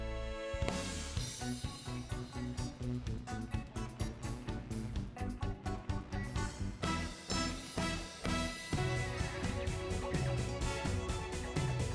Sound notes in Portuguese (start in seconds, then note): none